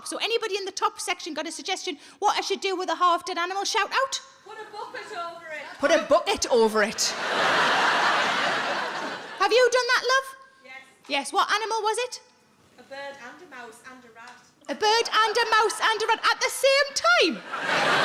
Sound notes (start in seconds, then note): 7.0 audience laughs